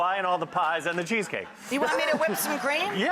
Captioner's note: audience laughs